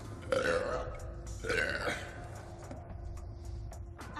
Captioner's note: burping